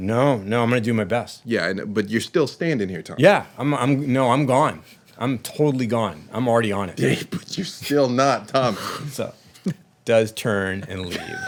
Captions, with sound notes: "No, no, I'm gonna do my best." Yeah, but you're still standing here, Tommy. "Yeah, no, I'm gone. "I'm totally gone. "I'm already on it." But you're still not, Tommy. (laughter) He does turn and leave.